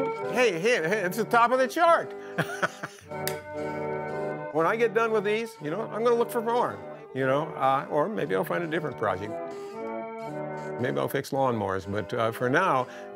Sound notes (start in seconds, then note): 2.3 laughing